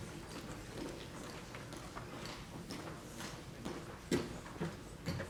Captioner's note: foot step stumping